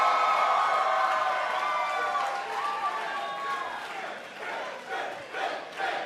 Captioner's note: cheers & applause; fans chanting